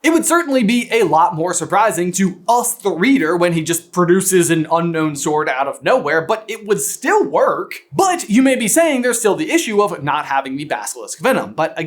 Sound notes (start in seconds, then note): none